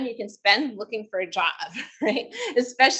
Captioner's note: chuckles